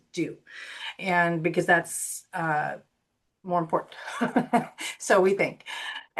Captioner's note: laughs